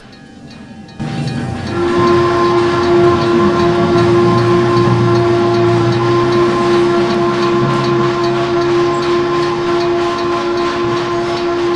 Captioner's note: FRISCO 1522 Whistle